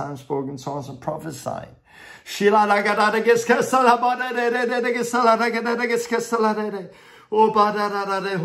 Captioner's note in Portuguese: fala em línguas